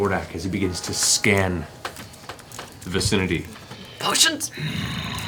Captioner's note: growling